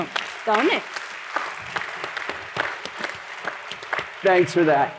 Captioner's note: applause